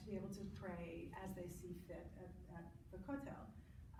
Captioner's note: foreign language